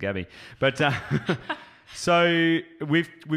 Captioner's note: laughs